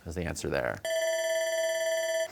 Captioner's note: bell ringing